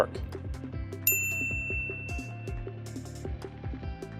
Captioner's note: bell dings